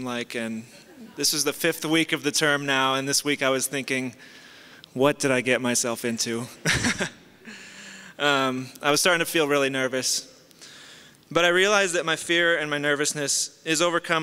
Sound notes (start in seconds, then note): 0.3 soft laughter; 6.6 chuckles